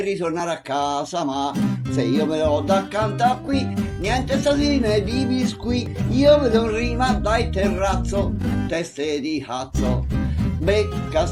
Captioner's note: in rhyme